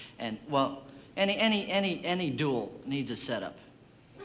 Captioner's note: stammers